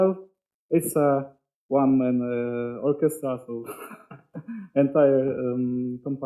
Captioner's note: chuckles